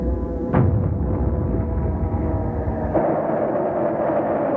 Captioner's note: explosion rumbles